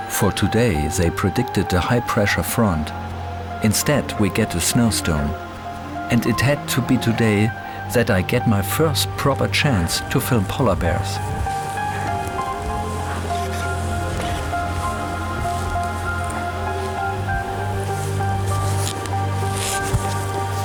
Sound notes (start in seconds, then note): 10.7 strong wind gusts